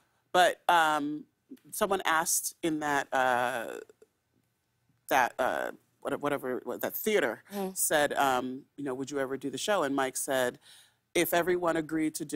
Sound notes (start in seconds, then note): none